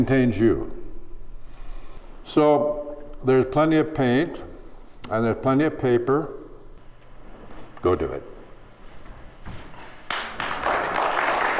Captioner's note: applause